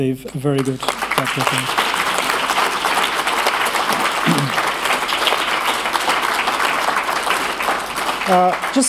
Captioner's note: applause